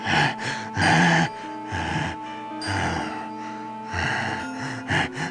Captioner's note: inmate breathes heavily